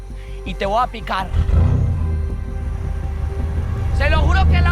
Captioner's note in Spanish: Ruido del vehículo